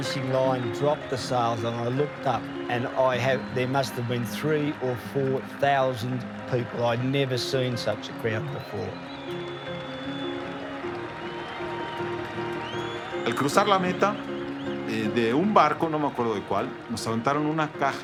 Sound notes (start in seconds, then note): 7.4 cheers and whistles; 11.5 in Spanish